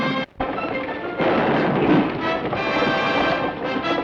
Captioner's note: dramatic orchestral music; hooves thunder; guns fire